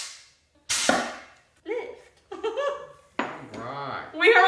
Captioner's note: laughs